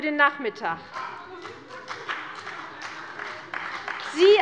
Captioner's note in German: Beifall bei der CDU und dem BÜNDNIS 90/DIE GRÜNEN